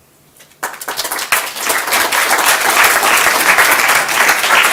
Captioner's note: applause